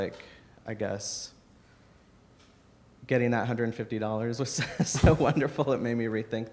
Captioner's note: laughs